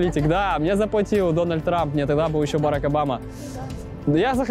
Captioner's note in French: rires; rires